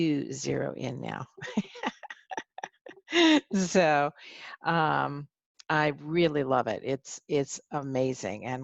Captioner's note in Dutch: Gelach